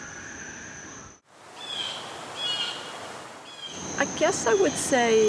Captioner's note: birds calling